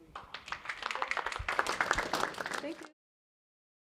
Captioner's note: applause